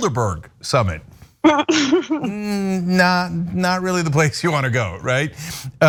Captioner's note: laugh